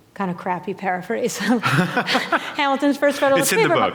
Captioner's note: laughter